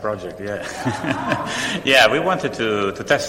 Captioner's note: laughter